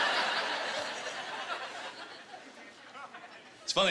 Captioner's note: laughter